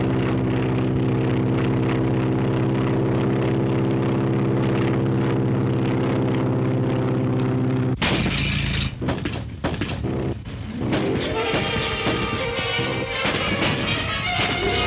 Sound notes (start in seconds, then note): 8.2 engine spluttering; 11.6 suspenseful music